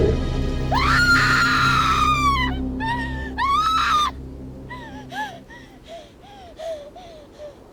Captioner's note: blood gushes; Connie screams; dragon growls